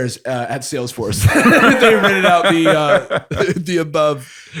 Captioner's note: laughter